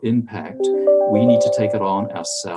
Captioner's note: computer dinging